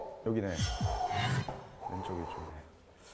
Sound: taking deep breaths

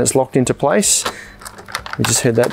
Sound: fridge beeps

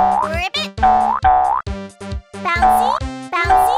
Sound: boinging sounds

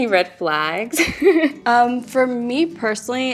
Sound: laughing

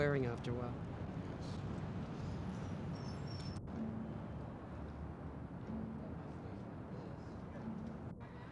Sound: street noise

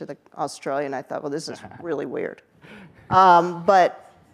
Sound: chuckles

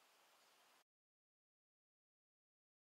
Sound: silence

